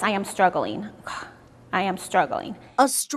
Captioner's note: sighs